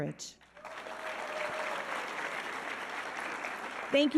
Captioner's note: audience applauding